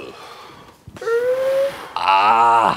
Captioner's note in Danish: lejer gråd!